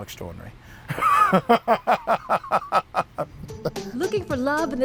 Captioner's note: man laughs